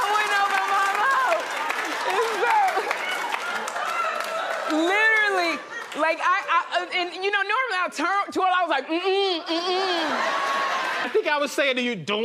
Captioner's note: laughter and applause